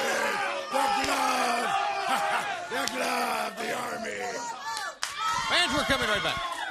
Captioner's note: crowd cheering